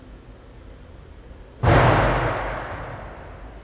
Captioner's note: thud